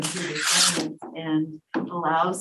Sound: paper rustling

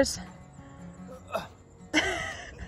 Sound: grunting; laughing

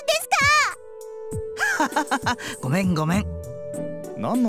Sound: laugh

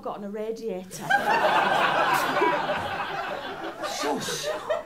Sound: laughter

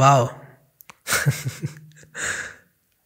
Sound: chuckles

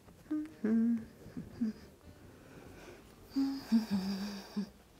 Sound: humming

